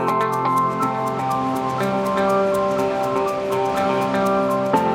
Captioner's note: upbeat music; water rushes